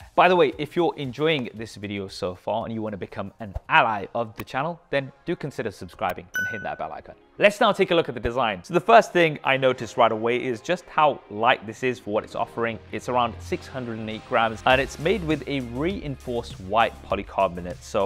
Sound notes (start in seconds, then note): 6.3 bell pings